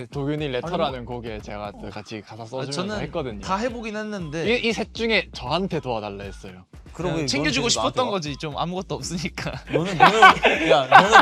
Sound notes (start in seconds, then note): 9.7 laughs